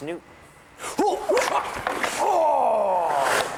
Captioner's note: grunting